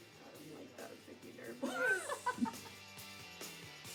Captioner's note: students laughing; light music